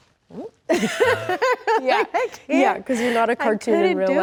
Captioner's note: laughs